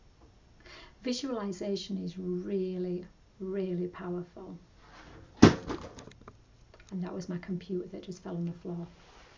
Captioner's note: crash